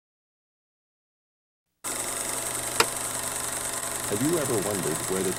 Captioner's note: projector clicking